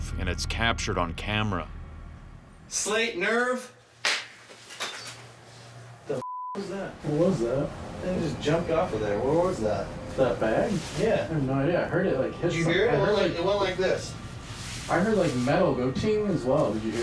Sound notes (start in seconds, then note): 4.0 claps